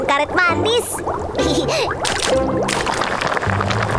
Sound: boiling

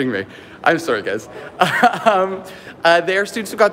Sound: laughing

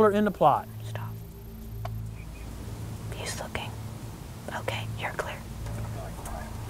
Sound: whispering

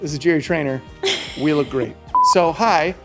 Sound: laughing

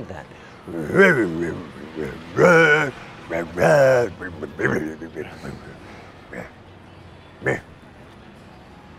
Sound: growling like a bear

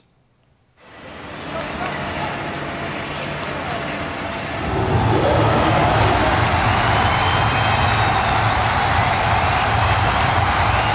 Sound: ambient Noise & Cheering Crowd

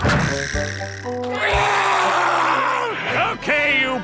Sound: screaming

